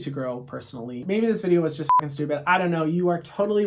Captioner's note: beep